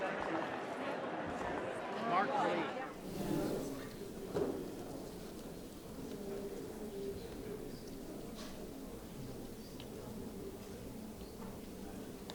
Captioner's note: applause